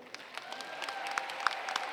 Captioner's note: applause